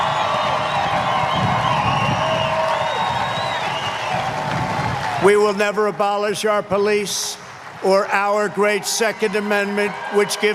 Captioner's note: cheers and applause